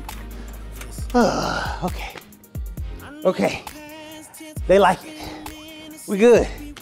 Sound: sighs

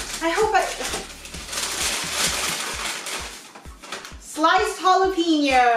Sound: rustling

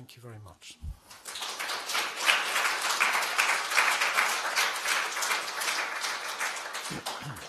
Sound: applause

